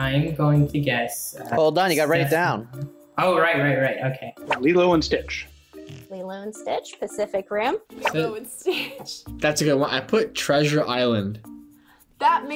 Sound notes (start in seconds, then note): 9.2 laughs